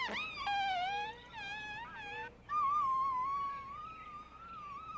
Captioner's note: squeegee squeaking